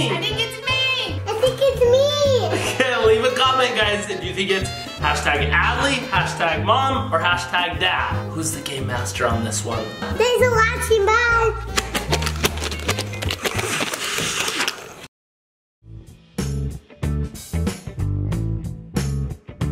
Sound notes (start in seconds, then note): 11.8 everyone blowing; 15.9 playful music